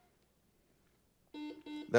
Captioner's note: buzzer buzzes